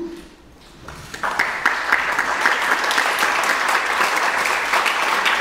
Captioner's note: audience clapping